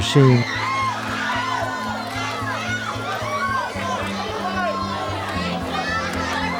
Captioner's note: crowd cheers